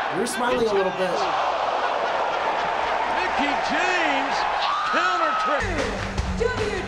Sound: Mickie screaming

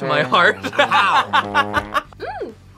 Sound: laughs

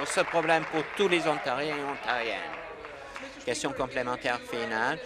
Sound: applause

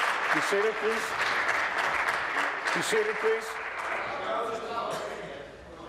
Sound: applause

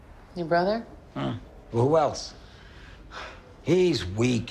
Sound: sighs

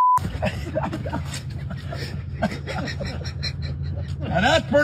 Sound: laugh

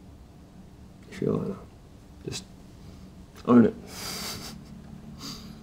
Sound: chuckles

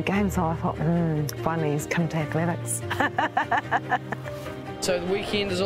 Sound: laughs

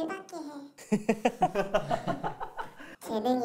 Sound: laughing

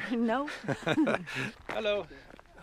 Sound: laughs

